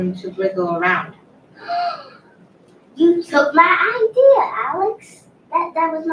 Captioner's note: gasps